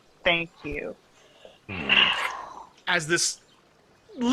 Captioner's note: heavy sigh